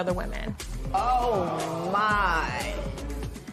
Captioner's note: spectators exclaim